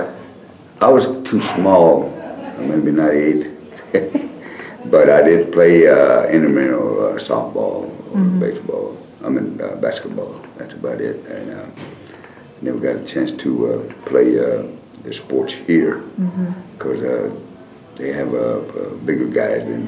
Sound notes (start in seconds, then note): 3.7 laughter